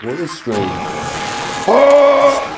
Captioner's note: meat skull bike yell